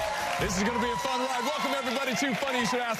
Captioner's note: audience cheering